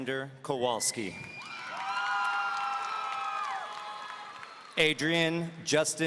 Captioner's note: audience cheering; audience applauding